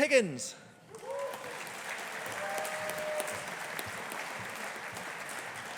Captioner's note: audience applauding